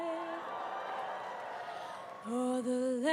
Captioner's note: cheers